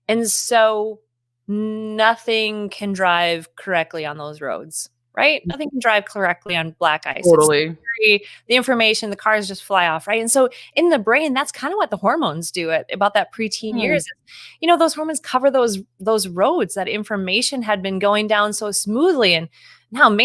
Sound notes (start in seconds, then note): 8.3 speaking faintly